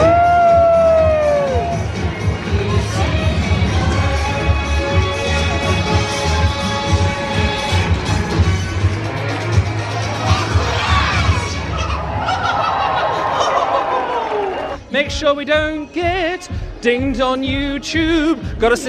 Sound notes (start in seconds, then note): 0.0 upbeat music; 0.0 crowd cheering; 11.7 Mickey laughing